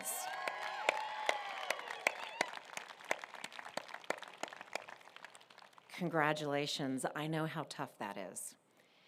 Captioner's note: applause